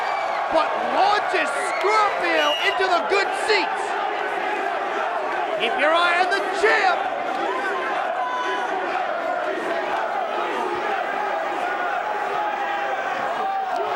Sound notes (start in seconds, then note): 4.5 crowd chattering; 8.1 crowd chanting